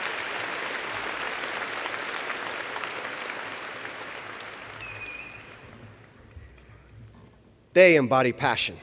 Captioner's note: applause